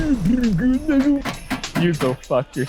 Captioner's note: postbox rattling